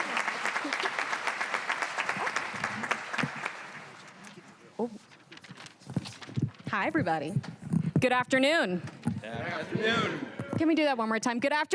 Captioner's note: cheers and applause